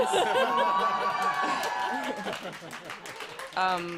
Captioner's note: applause